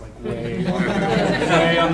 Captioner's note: audience laughing